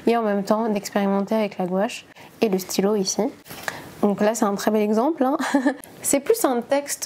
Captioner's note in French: rire